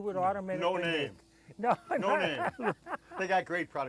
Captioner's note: laughs